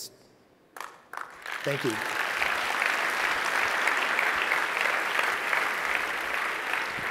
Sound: audience claps

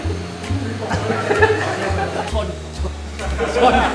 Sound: laughs

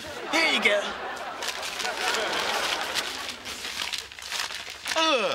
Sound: rattling

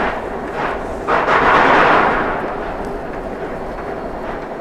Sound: more violent slipping

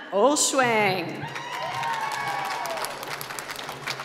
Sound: applause

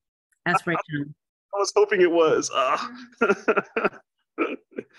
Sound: laughs

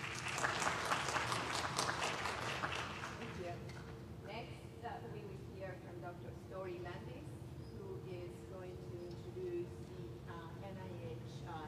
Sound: applause

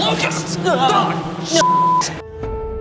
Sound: beep; sustained piano note

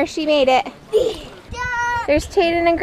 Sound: grunts

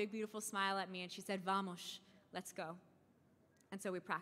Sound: speaking in foreign language

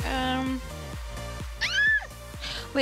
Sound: squeals

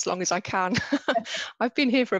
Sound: panelists laugh

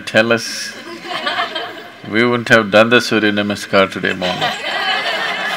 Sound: laughter

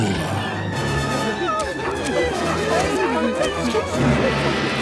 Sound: whimpering

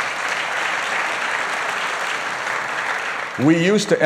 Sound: applause

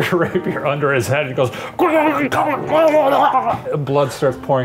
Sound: grunting

